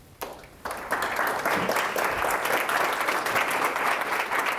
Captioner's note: audience applauds